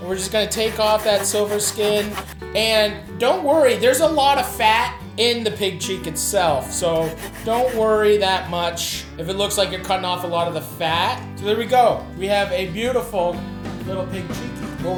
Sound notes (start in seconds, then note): 7.0 knife swishing